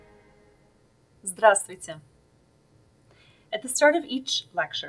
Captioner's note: Russian